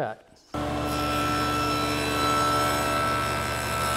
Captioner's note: machine running